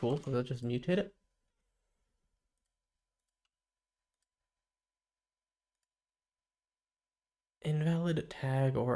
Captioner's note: silence